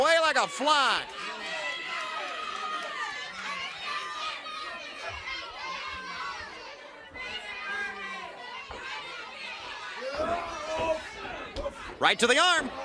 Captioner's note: crowd chatter